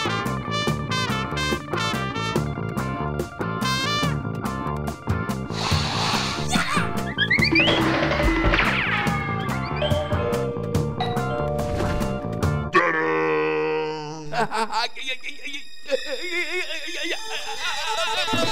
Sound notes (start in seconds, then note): 5.8 snorting; 6.5 cartoon sound effects; 9.8 doorbell echos distantly; 14.1 stutters; 14.3 suspenseful music